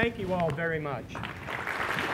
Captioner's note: applause